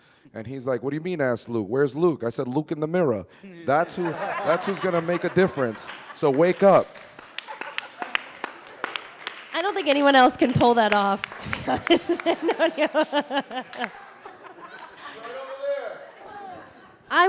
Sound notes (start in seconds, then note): 7.0 audience laughing and applauding; 11.4 chuckling